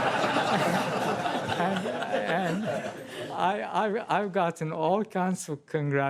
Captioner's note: laughter